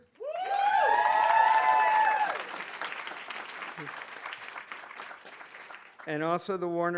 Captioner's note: audience applauding; audience cheering